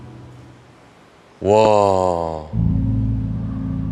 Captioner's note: exclamations